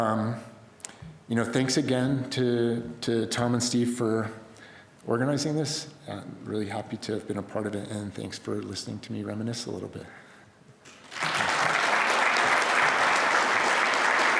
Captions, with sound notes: you know, thanks again to to Tom and Steve for organizing this and really happy to have been a part of it. And thanks for listening to me reminisce a little bit (crowd applause).